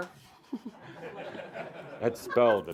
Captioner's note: she’s giggling